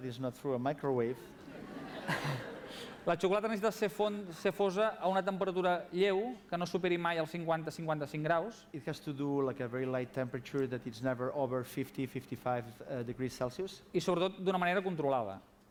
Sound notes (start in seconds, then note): 5.2 non-english speech; 14.4 non-english speech